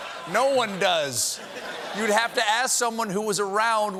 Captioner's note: laughter